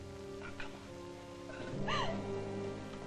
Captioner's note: sobb|ng